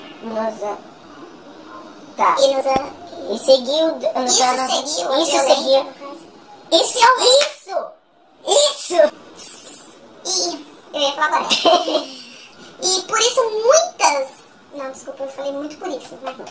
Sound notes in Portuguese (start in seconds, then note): 11.4 risos